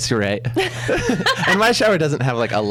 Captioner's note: laughs